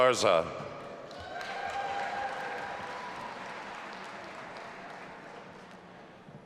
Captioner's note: audience applauding and cheering